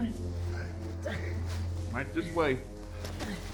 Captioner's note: man groans